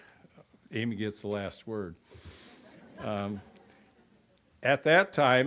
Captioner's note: audience chuckles